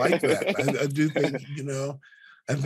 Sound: Chukwudi giggling

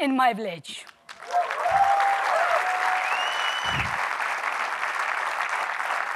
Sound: applause and whistles

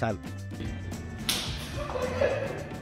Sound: sound of hands clapping; laughter

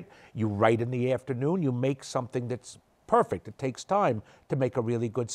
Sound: none

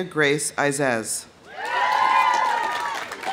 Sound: audience cheering; audience applauding

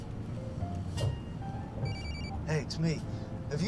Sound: ring

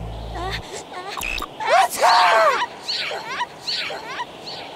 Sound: sneezes

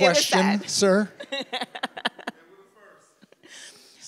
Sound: laughs

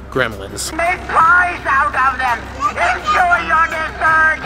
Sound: pumpkin talking

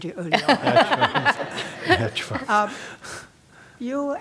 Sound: laugh

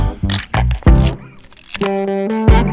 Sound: coat unzipping; camera lens shuttering; upbeat country music continues

